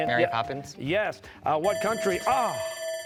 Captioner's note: bell ringing